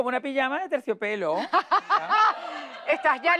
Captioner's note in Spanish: Ríe